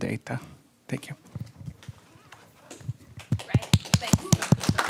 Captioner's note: audience applause